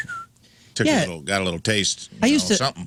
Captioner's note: whistling